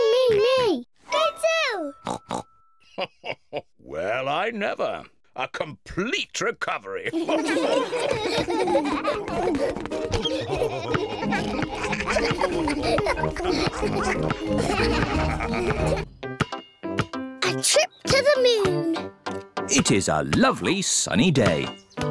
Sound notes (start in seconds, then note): 2.3 oinks; 2.9 chuckles; 7.7 all laughing